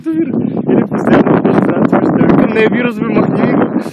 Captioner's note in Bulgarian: чува се вятър